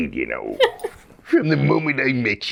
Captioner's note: laughing; In Mr. Krabs voice